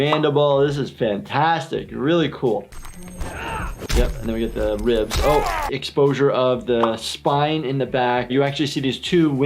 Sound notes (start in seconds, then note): 3.3 metal pieces rattling; 3.3 grunting; 3.8 body slamming noises